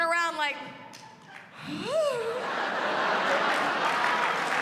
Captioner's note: sighs